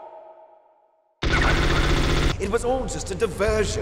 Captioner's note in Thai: เปรี้ยงๆๆ!!!